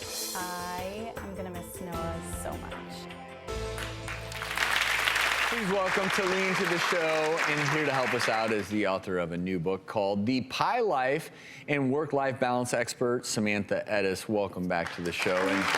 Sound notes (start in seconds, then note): 3.8 audience applause